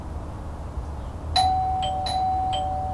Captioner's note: door bell ring